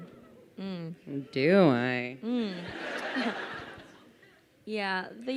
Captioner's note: crowd laughing